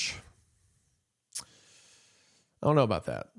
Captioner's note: clicks tongue